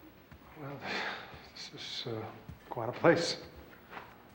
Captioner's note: sighs